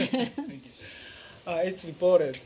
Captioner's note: laughter